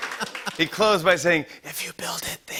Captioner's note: laughing; whispering